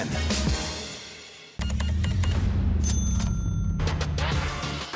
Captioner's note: cash register beeps, dings